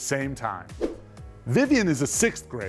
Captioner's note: screen whooshing